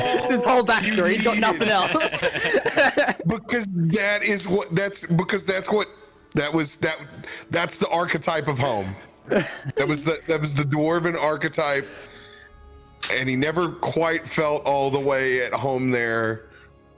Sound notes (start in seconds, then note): 0.0 all laughter; 0.8 continued giggles